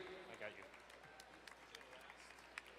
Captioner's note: distant clapping; quiet talking